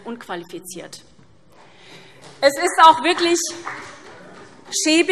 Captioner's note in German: Beifall SPD